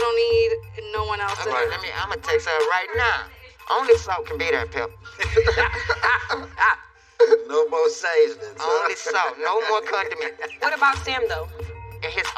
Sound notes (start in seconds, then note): 4.3 laughghing